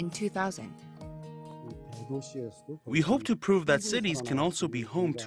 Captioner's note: Korean